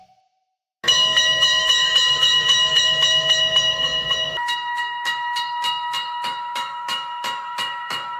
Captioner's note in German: Bahnübergangsglocke